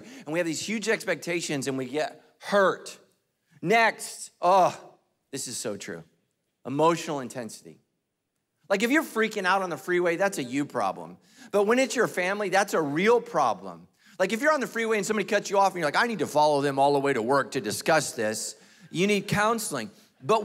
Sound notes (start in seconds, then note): none